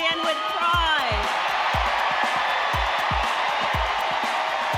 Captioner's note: crowd cheering loudly